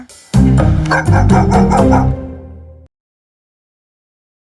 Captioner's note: dog barks